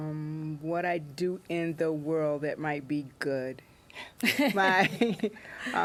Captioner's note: laughter